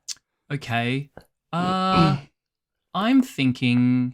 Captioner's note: chuckles